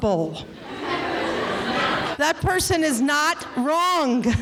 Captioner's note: laughing